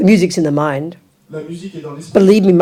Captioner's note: audience member speaks in French